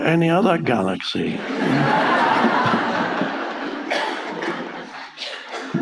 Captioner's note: audience laughing